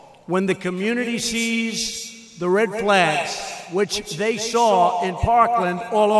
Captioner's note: none